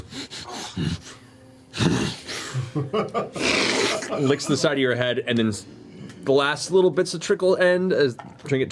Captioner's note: slurp